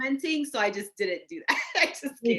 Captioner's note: laughing